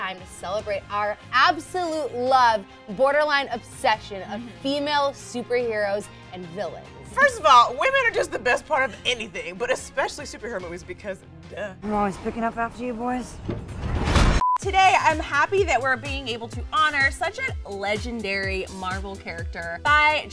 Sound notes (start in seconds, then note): 13.8 monotonous high pitch sound